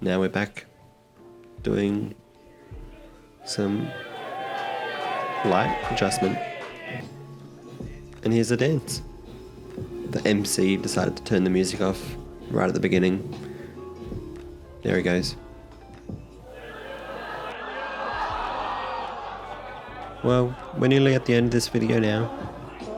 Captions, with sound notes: Now we're back doing some light adjustment. (crowd cheers) And here's the dance. The MC decided to turn the music off right at the beginning. There he goes. (crowd laughs) Well, we're nearly at the end of this video now.